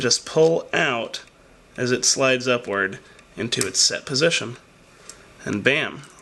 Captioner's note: click